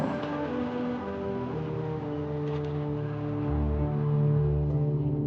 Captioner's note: crowd laughs and chatters; soft jazz music continues